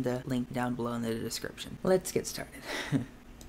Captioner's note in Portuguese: risos